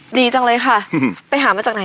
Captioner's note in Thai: เสียงหัวเราะ